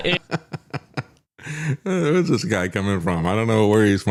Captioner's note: laughing